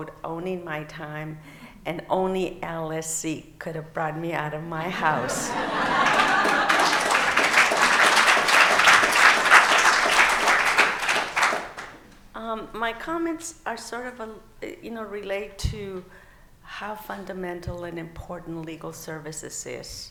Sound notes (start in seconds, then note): 8.7 laughing; 12.5 applause